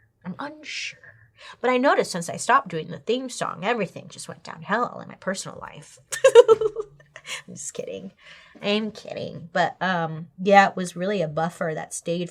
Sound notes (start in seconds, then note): 6.1 laughs